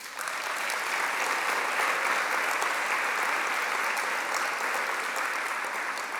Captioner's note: applause